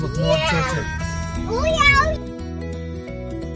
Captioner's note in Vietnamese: Kids' yell